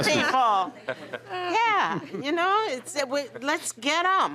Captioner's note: laughter